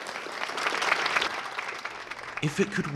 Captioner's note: applause